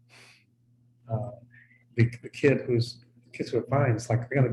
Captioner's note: chuckles softly